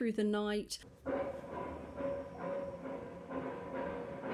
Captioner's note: loud metal clanking